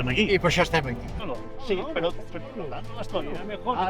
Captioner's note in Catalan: So de converses